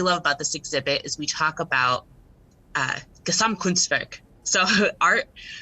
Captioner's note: speaks foreign language